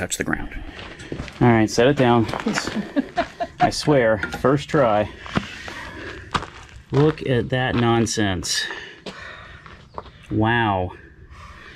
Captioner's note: laughs